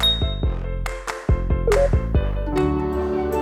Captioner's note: ding; beeping; soothing music